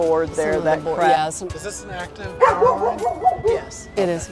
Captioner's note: dogs barking